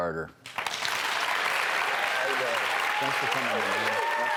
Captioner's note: applause and cheering